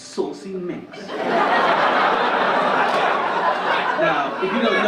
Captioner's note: audience laugh